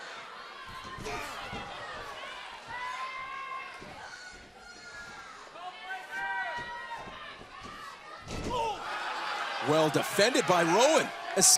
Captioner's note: crowd chatter